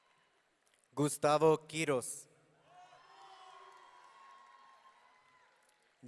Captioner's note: audience cheering